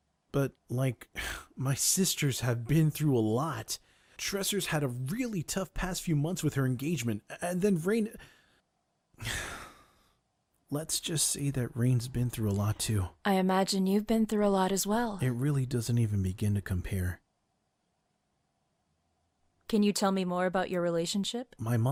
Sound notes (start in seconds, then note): 9.2 sighs